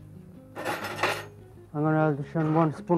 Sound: calm music; silverware shaking

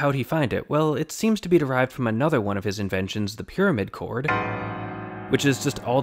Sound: bang

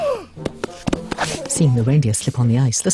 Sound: snowman gasping; hoofs clicking

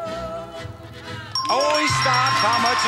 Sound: bell rings

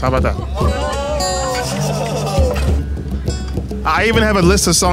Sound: laughs

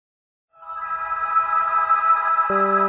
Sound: magical sound effect

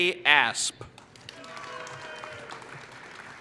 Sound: applause

